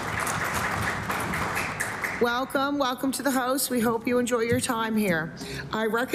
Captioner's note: applause